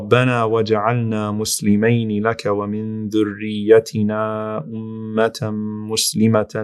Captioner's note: reciting in Arabic